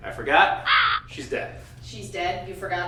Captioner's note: bird caws